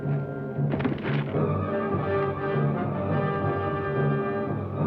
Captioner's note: distant thuds